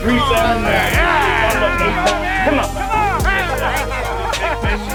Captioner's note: men cheer and laugh